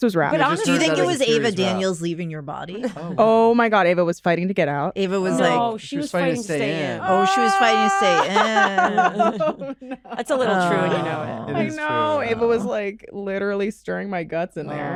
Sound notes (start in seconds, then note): 7.0 laughs